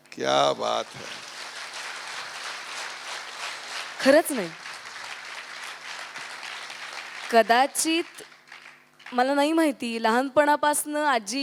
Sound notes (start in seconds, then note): 1.9 audience applauds; 5.9 applause continues